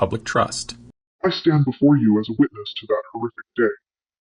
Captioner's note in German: verzerrt